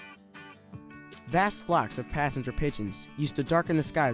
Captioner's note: upbeat music; voiceover